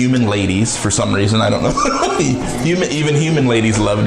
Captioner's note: laughing